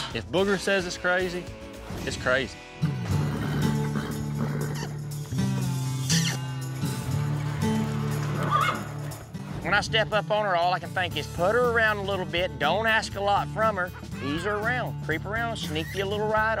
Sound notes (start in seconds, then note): 2.8 horse grunts; 5.9 makes kissing sound; 8.4 horse neighs